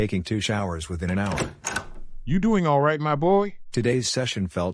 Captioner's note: door open